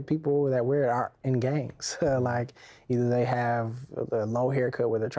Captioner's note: laughs